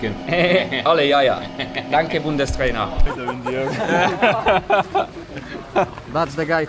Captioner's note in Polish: śmiech